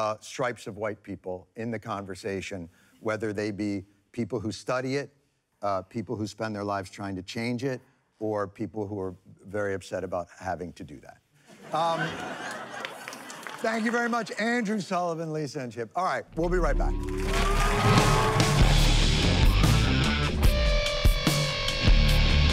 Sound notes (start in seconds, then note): 11.5 laughter; 16.8 applause